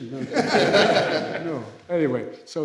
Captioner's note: laughter